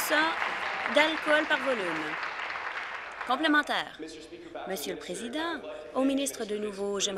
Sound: applause

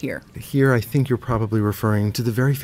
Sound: voiceover

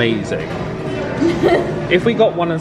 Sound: laughing

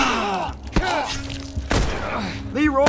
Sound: Joel grunts; assailant gurgles; blood splatters; Joel grunts in pain; gunshots

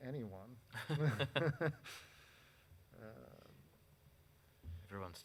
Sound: board members laughing

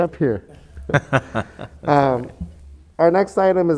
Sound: members laughing

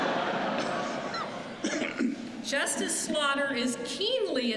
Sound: laughter

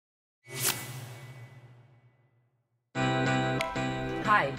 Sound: logo swooshes

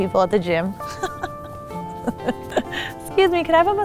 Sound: laughs

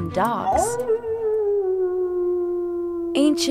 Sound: wolf howls

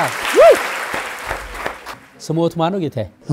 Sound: applause

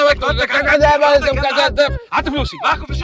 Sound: arguing

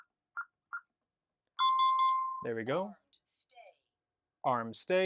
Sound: confirmation beeps

